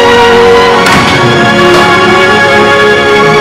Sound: thudding

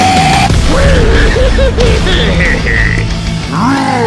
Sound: idiotic laughter

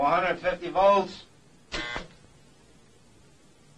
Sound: machine beeping

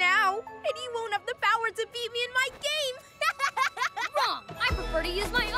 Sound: laughs

